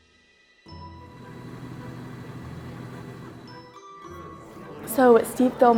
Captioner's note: engine sound